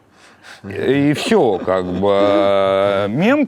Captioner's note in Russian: смеётся